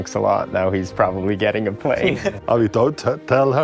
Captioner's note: laughs